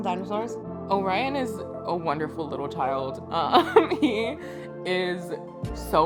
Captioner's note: laughs